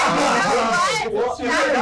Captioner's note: arguing